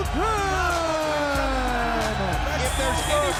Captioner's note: audience cheers